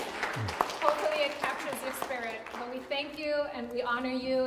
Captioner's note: audience applauds